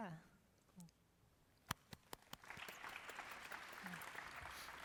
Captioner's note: applause